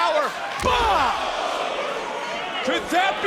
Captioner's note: crowd oohing